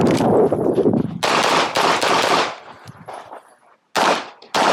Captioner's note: gun clicking; gunshots banging